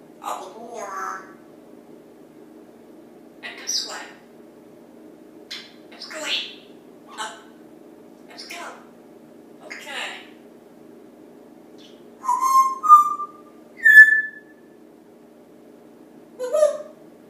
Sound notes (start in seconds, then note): 12.2 whistling